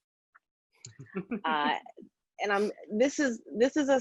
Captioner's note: laughing